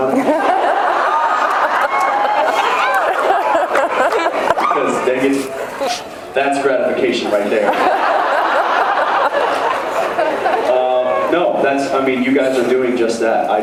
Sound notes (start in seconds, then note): 0.0 laughs, cheers; 7.6 laughs